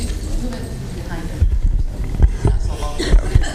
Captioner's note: laughter